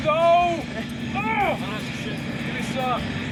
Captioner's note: man in helicopter yelling